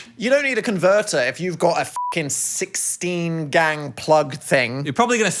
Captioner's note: beep